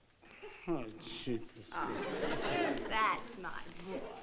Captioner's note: mumbles